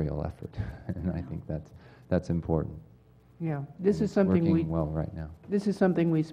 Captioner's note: laugh